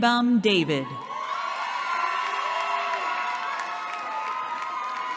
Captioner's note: cheering